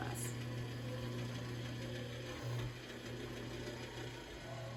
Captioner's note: machine humming